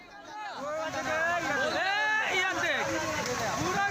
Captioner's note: public shouting